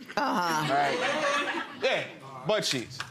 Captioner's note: audience laughing